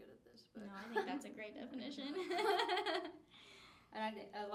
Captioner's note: laughs